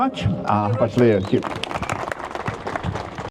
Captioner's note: audience applauding